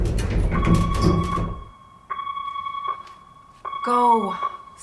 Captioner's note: phone ringing